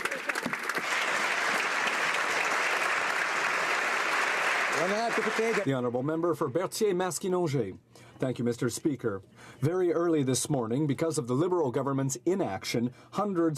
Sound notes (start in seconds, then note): 4.0 applause